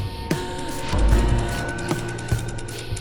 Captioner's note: foreboding music; counter ticking